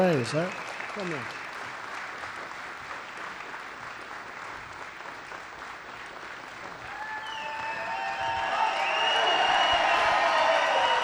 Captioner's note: applause